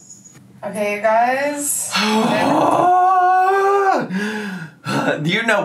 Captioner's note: groaning